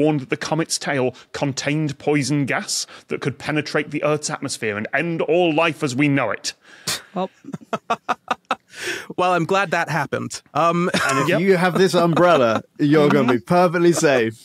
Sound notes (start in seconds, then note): 7.0 laughs